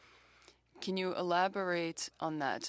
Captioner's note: speaking French